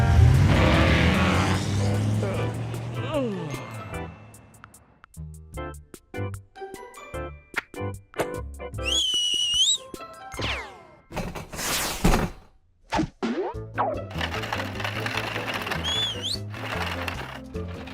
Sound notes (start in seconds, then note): 8.8 whistles; 15.6 whistles